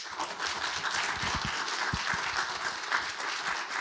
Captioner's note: audience applauds